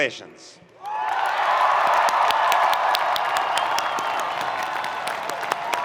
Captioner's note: audience cheering and applauding